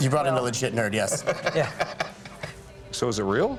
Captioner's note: laughs